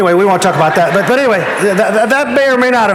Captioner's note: audience laughing